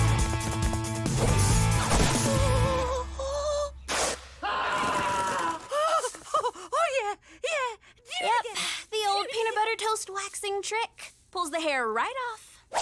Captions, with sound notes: Ooh. [ripping] [screaming] Oh, oh, oh, yeah. Yeah. Yep, the old peanut butter toast waxing trick pulls the hair right off.